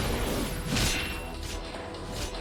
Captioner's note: energy whirs